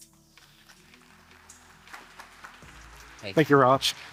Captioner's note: audience applauding